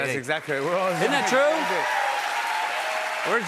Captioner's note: cheers and applause